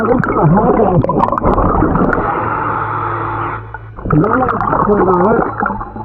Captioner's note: faintly speaking